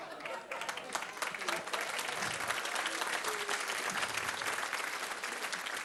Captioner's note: applause